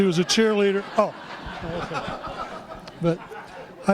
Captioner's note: laughter